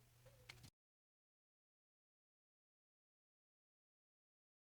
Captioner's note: silence